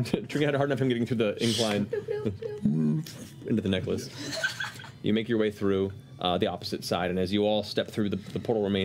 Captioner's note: moans